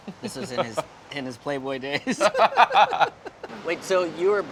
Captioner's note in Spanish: Risas